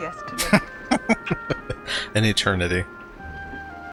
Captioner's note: laughing